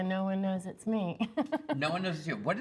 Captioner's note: laughs